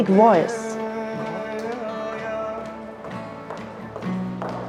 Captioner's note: footsteps thudding